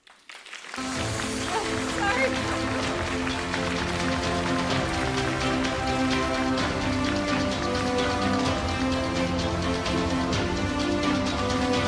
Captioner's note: applause, Music